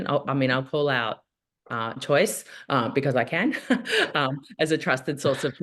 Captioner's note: chuckles